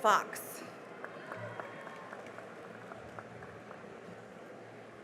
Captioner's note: cheering and applause